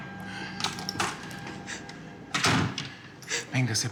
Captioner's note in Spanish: sonido al cerrar la puerta